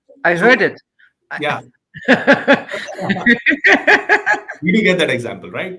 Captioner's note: laughing